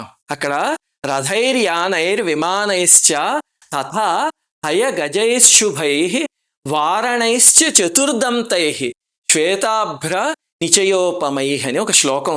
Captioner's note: reciting verse